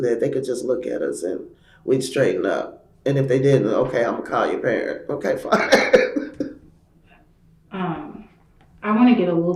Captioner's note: laughs